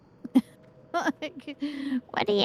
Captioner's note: laughs